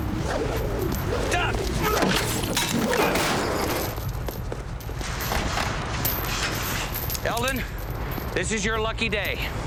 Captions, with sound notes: (whooshing) Duck! (Eldon grunts) Eldon, this is your lucky day.